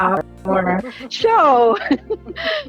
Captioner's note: laughter